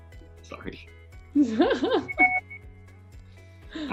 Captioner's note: both laugh